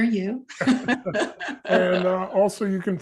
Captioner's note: all laughing